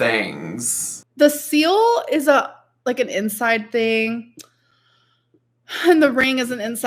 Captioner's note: laughs